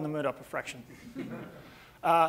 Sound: audience laughing

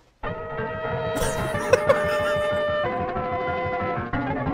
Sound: sped-up horn music; laughs intensely

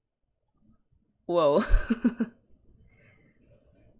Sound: laughs

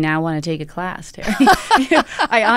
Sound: laughter

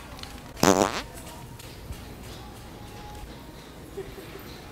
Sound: farting noise

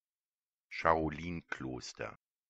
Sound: fast Pronunciation

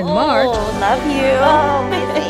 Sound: laugh

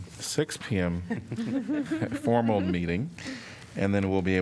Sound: laughter

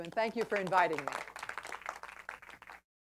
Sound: applause

